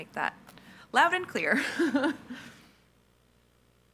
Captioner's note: laughs